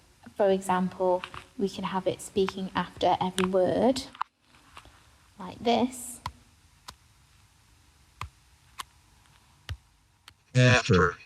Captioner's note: computerised voice says "after" and "Every"